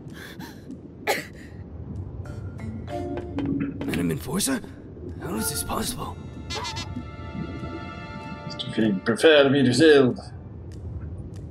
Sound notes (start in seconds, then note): 1.0 Anne coughs